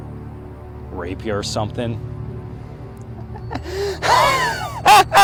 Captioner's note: laughing